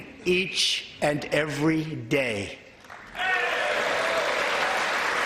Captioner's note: applause